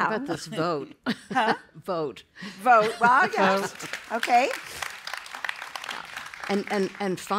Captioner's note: applause